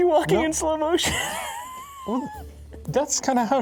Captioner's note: laughing